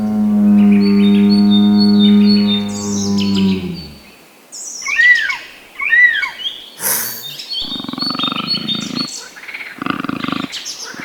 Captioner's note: animal Noises